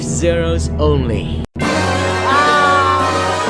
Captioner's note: laugh